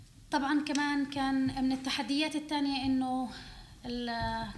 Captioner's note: speaking arabic